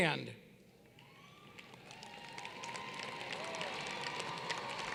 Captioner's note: applause